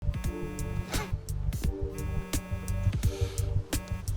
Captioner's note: cellphone buzzing